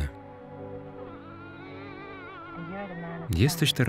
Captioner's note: baby crying